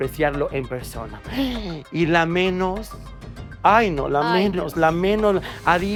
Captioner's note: gasp